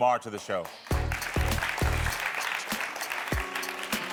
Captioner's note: audience clapping